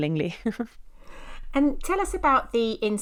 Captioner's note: chuckling